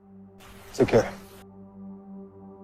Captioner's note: voiceover